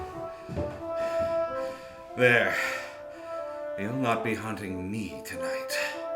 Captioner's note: panting